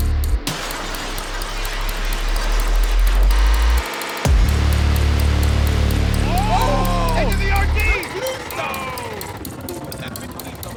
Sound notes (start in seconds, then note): 0.9 upbeat music; 6.2 cheering